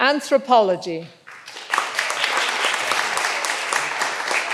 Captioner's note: all applauding